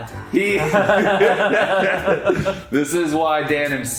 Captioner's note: both laugh